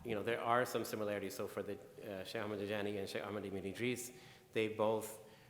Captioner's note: speaking in foreign language